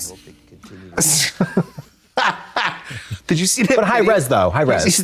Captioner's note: blonde Women snicker